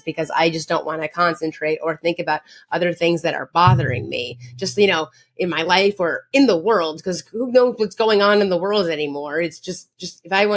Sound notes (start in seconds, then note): none